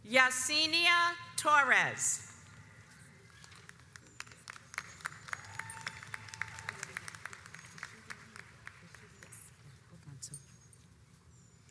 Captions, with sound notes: Yasinia Torres. (audience applauds)